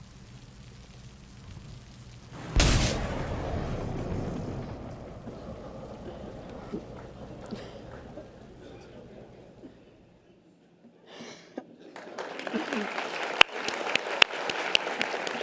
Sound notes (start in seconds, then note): 2.3 zap, thunder; 11.9 audience applause